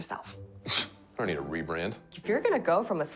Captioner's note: scoffing